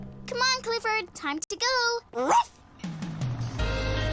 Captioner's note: barking